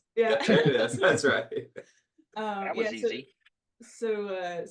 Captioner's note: laugh